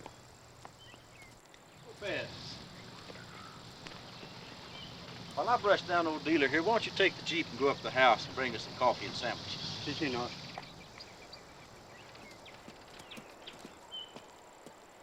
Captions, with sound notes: - Lopez. While I brush down on Dealer here, why don't you take the Jeep and go up to the house and bring us some coffee and sandwiches? (speaking in a foreign language)